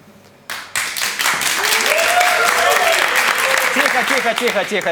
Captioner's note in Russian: Аплодисменты